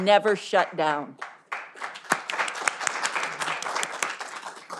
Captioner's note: all applauding